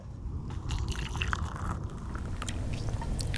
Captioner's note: slosh